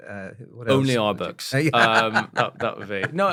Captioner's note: laugh